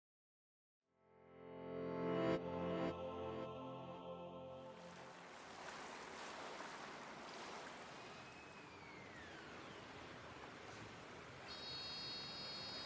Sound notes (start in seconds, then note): 4.6 water bubbling